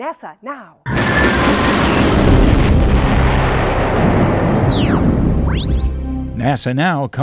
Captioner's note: sound Effects